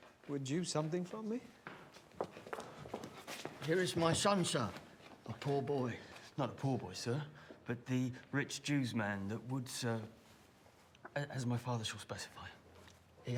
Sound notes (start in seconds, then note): none